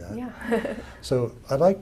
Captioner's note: laugh